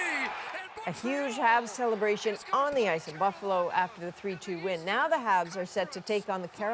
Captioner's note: cheers and Applause